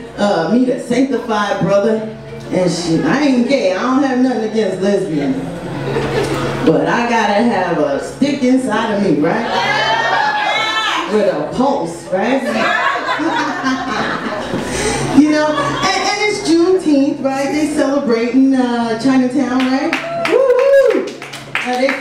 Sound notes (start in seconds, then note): 9.4 audience cheers; 12.4 laughs; 19.9 audience claps